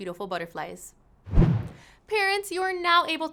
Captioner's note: whooshing